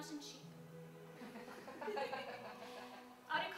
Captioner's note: laughter